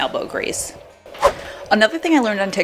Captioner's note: whooshing